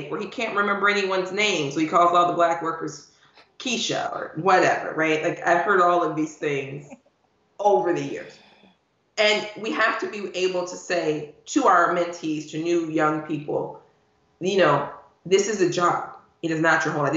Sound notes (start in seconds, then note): 7.8 laughing